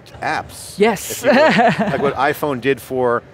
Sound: chuckles heartily

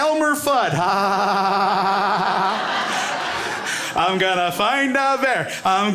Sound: Elmer Fudd laugh

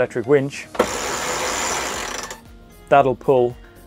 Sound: winch rattling

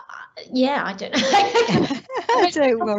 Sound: all laughing

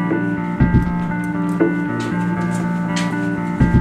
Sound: footsteps

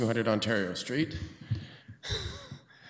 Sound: chuckles

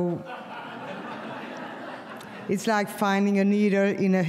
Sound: audience laughs

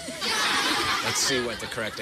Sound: laughter

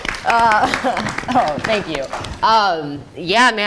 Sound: audience applauding

